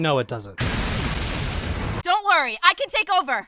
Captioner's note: lasers and explosions